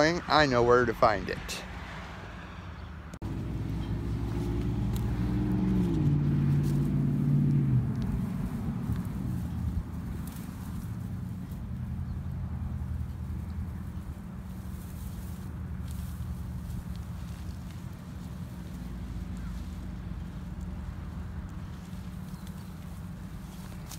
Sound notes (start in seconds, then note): 9.3 traffic noises & bush shuffling